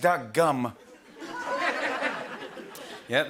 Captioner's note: laughter